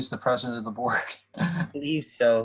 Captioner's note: laughter